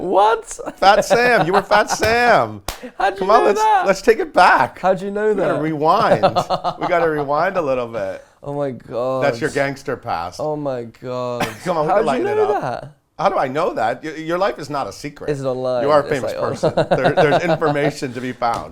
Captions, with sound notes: --What? --Fat Sam! You were fat Sam! Let's take it back --How did you know that? --Rewind. A little bit -- [laughs] Oh my god. --That's your gangster past. Come on we can lighten it up --How did you know that? --Your life is not a secret. You're a famous person there's information to be found.